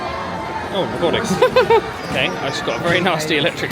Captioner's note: laughs